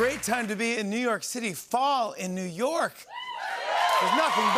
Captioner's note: cheers and applause